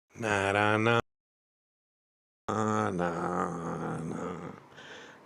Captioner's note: hums a melody